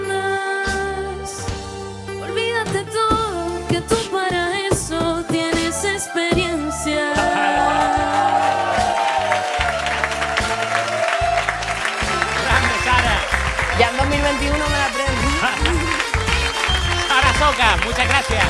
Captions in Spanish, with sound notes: ¡Grande, Sara! Para el 2021 me la aprendo. (Risas y aplausos) ¡Sara Socas, muchas gracias!